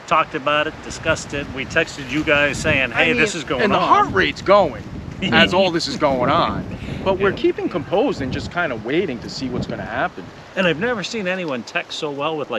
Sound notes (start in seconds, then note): 5.3 laughing